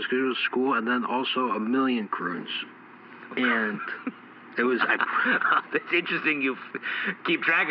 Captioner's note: chuckles